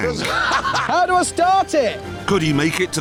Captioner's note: jeremy laughs